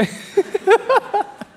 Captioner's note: laughing